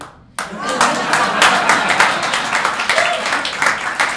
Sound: applause

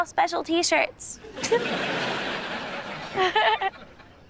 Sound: chuckles

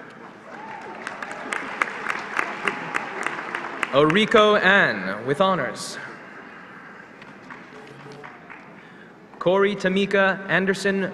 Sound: applause

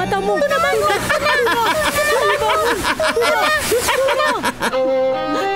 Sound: maniacal laughter; melancholic orchestral music

